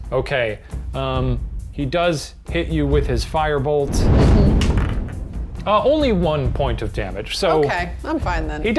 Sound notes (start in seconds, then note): 3.9 flames roaring; 4.5 clattering